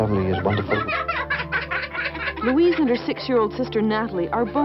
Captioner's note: laughing